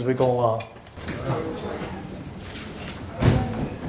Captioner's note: murmurs